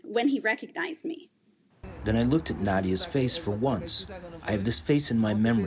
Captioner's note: through translator